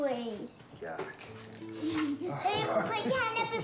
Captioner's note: broccoli crunches; laughs